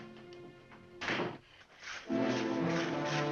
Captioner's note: door closing; saws cutting wood; ominous music